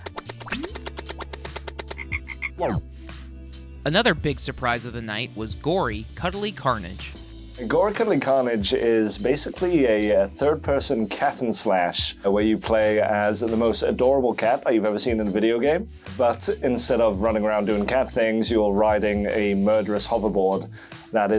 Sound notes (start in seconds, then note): 0.0 clock ticking; 2.1 frog croaking